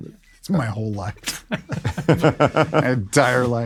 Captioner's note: laughs